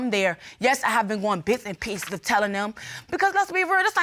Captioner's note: none